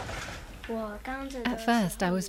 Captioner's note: speaking in foreign language